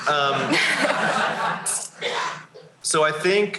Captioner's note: laughter